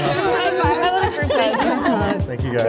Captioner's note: participants laughing and speaking indistinctly